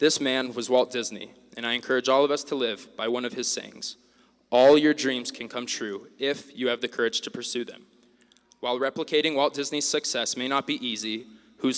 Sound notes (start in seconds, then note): none